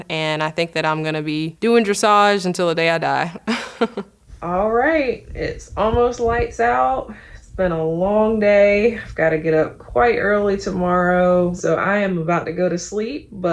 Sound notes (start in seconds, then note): 3.1 laughing